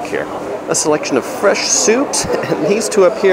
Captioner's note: chuckles